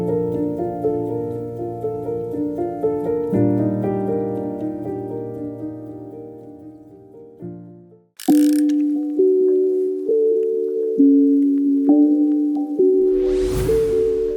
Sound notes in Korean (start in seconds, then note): 8.2 다이얼 소리